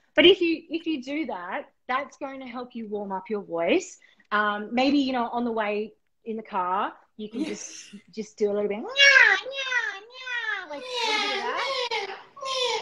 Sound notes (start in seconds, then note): 10.7 nasal tones